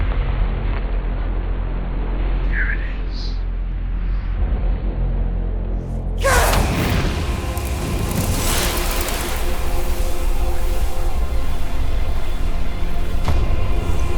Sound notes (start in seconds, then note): 0.8 dramatic orchestral music; 6.1 whooshing; 6.2 grunting; 6.2 dramatic orchestral music